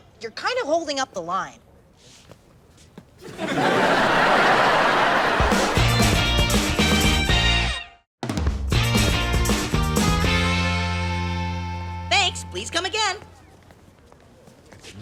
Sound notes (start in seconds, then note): 3.2 audience laughs; 5.0 upbeat music